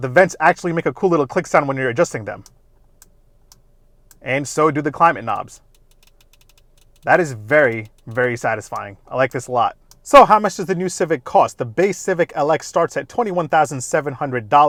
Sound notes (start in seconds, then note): 3.4 vents clicks; 5.6 knob clicks